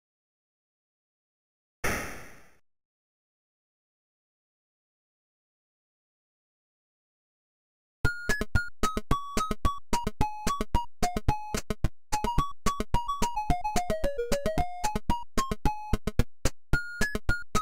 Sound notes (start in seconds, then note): 1.8 gun shot; 8.3 playful music